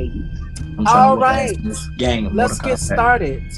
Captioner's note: other students talking